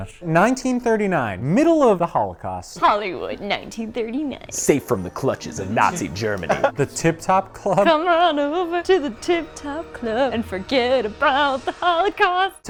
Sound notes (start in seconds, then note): 5.8 laughs